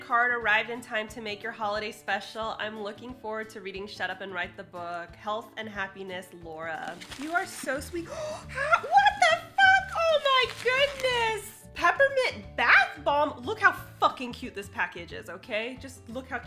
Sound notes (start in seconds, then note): 8.0 gasps